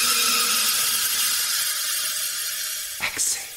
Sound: the robotic sounds fades out; delay and reverberated sound

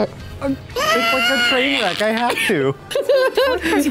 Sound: screams

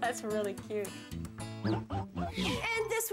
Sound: chuckling

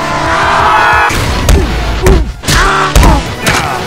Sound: yells angrily; all scream; punches landing; smacks

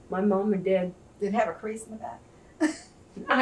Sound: laughs

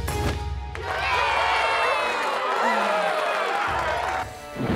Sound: cheering

